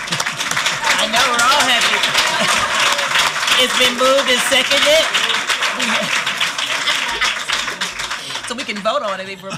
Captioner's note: applause